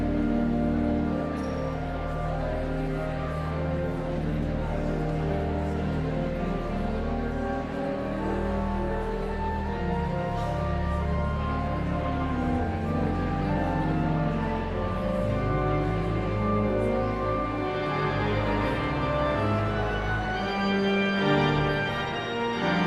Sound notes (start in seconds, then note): 3.4 enigmatic organ music continues; 8.4 audience chattering continues